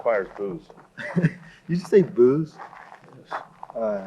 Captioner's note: chuckles